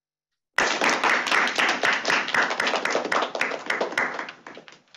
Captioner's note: crowd clapping